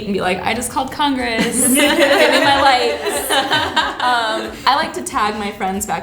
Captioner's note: laughter